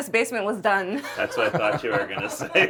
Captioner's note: laughing